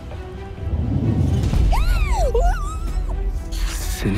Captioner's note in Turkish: Çığlık Atıyor